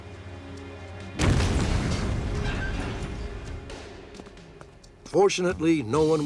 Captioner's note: explosion